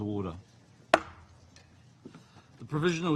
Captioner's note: gavel taps